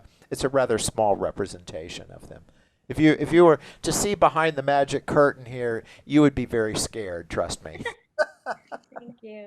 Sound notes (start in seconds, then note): 8.1 laughs